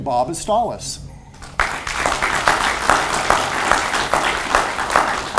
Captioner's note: audience applauds